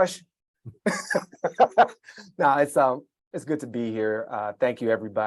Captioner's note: laughs